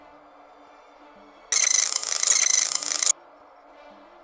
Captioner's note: chirping AAA radar sound